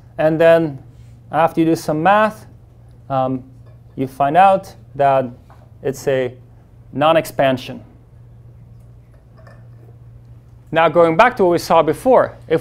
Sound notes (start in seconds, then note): none